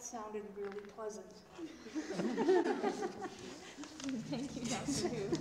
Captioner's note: laughter